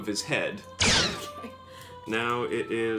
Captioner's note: blaster fires